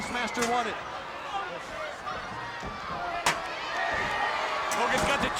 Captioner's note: crowd cheering